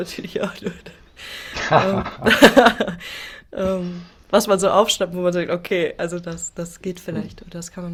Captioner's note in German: gelächter